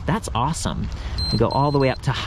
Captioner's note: bike beeps